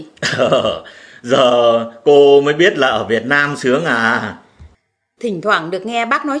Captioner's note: laugh